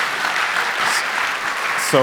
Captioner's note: applause